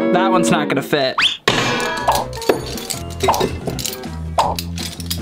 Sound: banging sounds

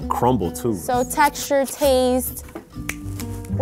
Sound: snaps

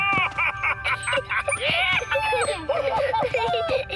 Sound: excited laughter

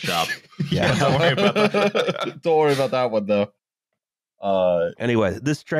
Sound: laughter

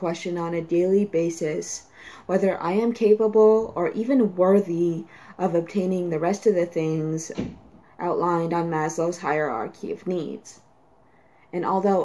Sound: door slam

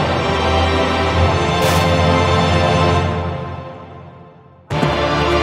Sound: wood splinters

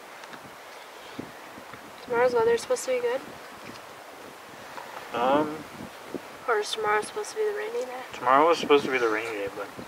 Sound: wind

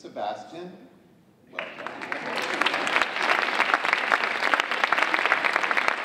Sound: audience applauding

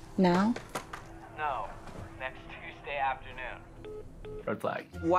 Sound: phone beeping

